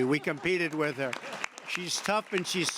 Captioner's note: laughter and applause